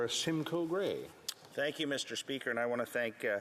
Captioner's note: speaking French